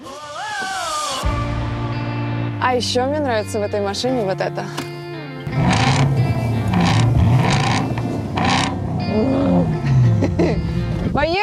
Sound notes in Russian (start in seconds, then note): 5.5 рычит